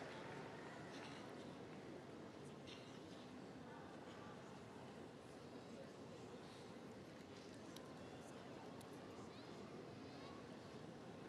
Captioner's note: applause